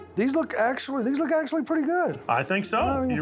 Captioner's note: none